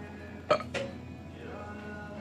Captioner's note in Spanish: eructa